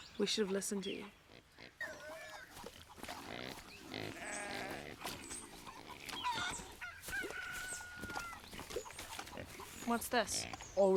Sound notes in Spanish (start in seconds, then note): 2.3 gallinas cloqueando; 2.5 Cerdos resoplando